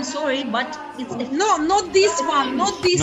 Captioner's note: laughing